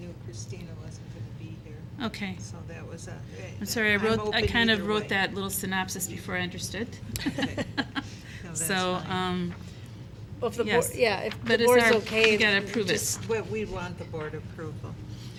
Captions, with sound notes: -We knew Kristina was going to be here. -I'm sorry, I kind of wrote that little synopsis before I understood. (laughing) -Well, we want the board approval.